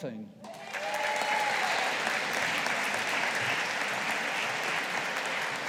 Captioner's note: audience applauding